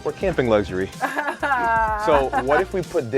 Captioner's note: laughing